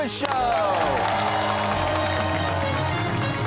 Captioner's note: cheers and applause